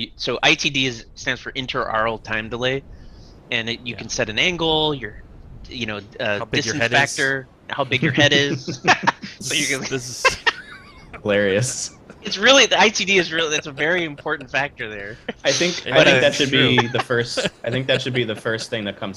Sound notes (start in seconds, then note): 9.6 laughter